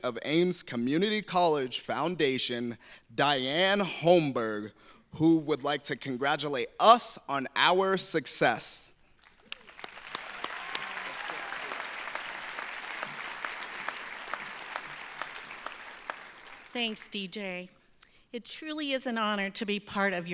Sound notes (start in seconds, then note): 9.2 audience applauding; 9.4 audience cheering